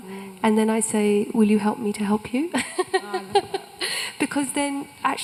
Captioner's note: laughs